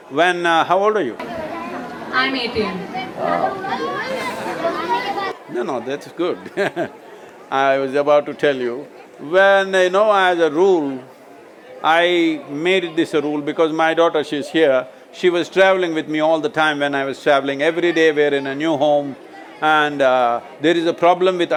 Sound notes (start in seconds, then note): 6.2 laughs